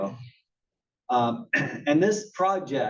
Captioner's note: cough